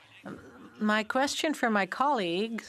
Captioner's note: speaking French